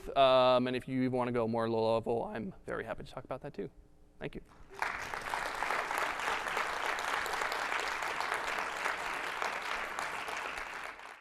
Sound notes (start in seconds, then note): 4.5 audience clapping